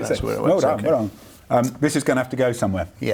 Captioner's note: laughs